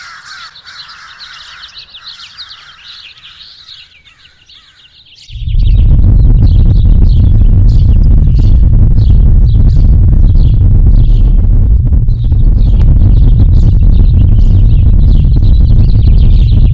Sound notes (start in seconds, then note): 0.0 sound of a flock of crows; 5.6 deep rumbling in the ground